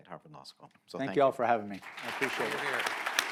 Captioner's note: applause